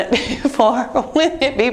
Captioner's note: chuckles